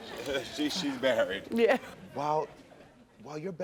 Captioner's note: chuckles